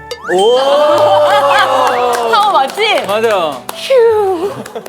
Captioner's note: applause of great satisfaction